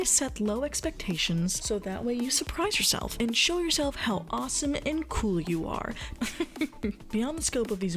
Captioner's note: laughs